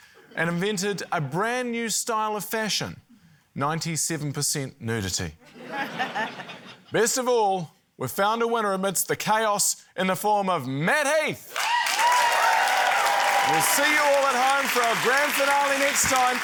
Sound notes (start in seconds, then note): 5.4 laughter; 11.5 cheering, applause